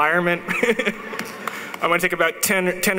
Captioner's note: chuckling